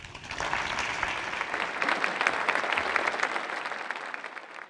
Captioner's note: audience applauding